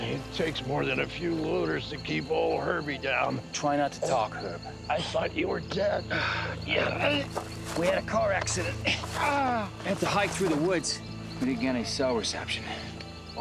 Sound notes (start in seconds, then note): 6.6 grunting